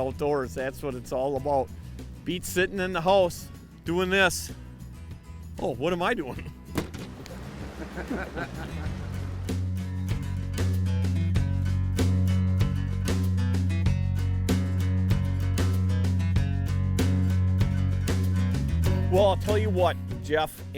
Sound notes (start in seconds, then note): 7.7 laughing